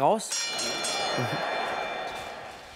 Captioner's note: Es wird zur Runde geklingelt